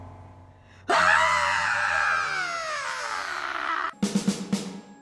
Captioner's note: bloodcurdling feminist rage scream; snare drum fill